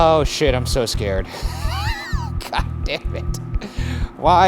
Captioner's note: laughs